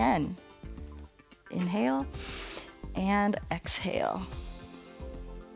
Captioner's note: inhales